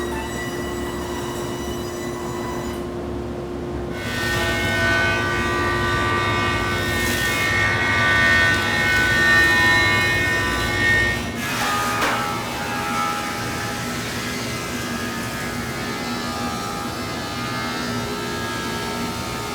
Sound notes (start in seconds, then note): 4.3 jointer whirring; 11.5 planer whirring